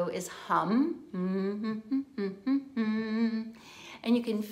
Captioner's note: humming